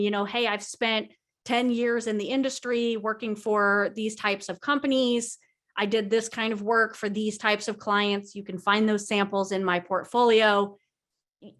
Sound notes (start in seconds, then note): none